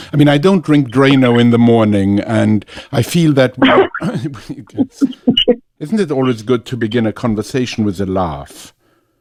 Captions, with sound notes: I mean, I don't drink dry, you know, in the morning, and I feel that. [Laughs] Isn't it always good to begin a conversationwith a laugh?